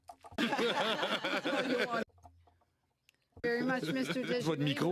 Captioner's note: speaking French